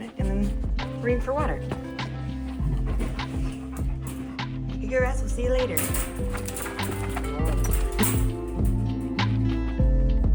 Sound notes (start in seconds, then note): 8.0 giggles